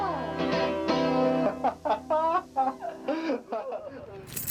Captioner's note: laughing